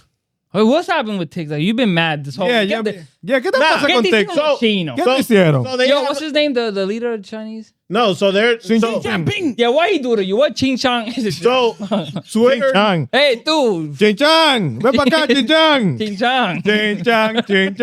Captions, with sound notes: What's happened with TikTok? You've been mad this whole week. Yeah, get that fucking TikTok. Get this from the Chinese. Get this, yeah. Yo, what's his name, the leader of the Chinese? No, so they're-- (Speaking In Foreign Language) Yeah, why he do that? You want (Speaking In Foreign Language) So, sweet chan. Hey, dude. Chan chan. Remember that, Chan chan. Chan chan.